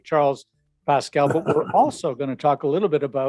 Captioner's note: chuckles